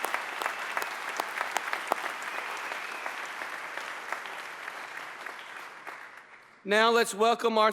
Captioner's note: applause